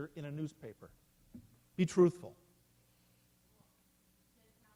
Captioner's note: silence